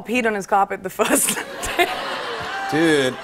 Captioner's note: laughter